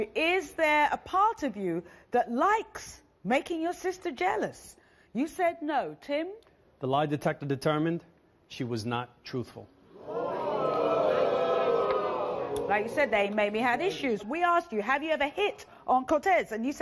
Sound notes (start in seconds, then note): 11.6 gasping